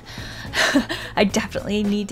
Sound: sharp intake of breath

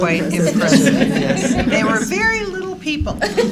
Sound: laughter

